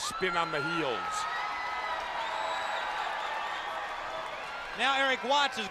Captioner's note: crowd cheering